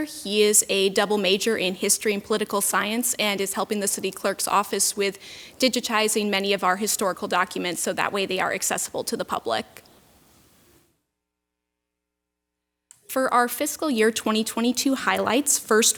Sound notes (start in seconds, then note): none